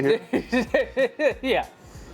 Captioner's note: laughing